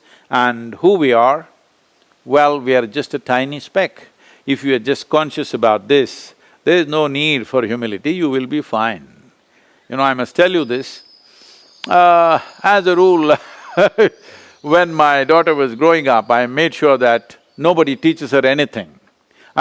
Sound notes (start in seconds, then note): 12.8 laughs